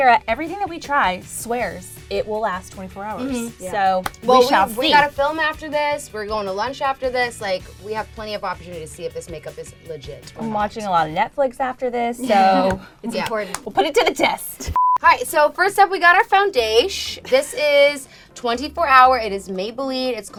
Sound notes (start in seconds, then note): 14.7 beep